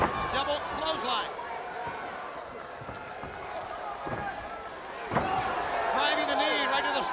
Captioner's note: crowd chatter